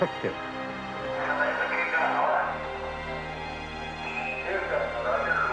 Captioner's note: people talking on radio